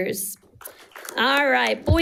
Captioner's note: audience applauding